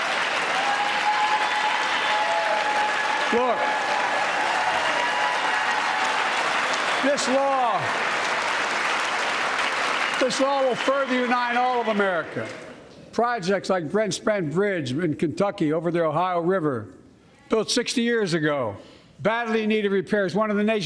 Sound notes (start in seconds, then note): 6.8 applause